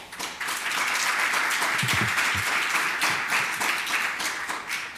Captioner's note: audience applauds